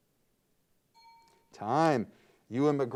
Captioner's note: timer bell dings